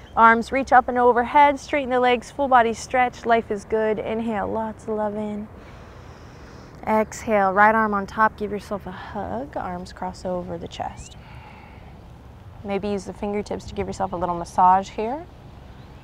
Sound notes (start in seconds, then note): 5.5 takes deep breath; 11.2 blows out breath